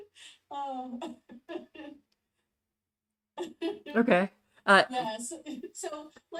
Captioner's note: laughs